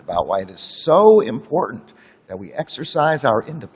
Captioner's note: none